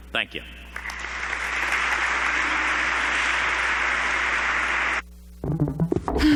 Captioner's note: applause